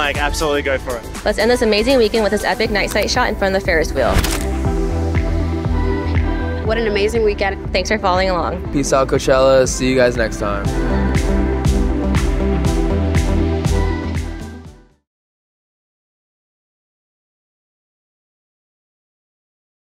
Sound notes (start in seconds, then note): 4.1 camera clicks; 5.0 upbeat music